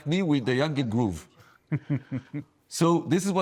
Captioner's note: laughs